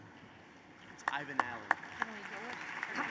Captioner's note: applause